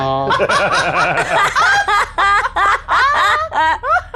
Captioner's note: everyone laughs